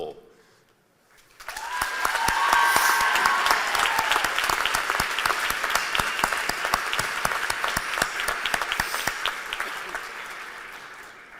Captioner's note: cheers and applause